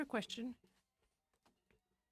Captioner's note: speaking French